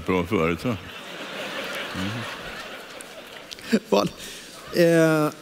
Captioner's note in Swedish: publiken skrattar